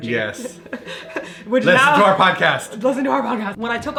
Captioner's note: laughs; whispers